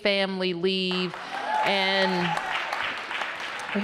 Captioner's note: applause